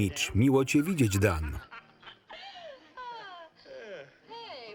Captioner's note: patrons laughing